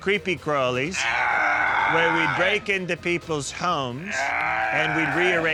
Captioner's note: Gil groaning loudly